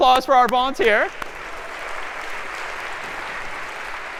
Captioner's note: applause